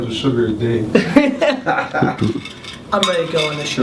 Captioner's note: laughs